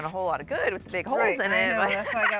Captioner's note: laughs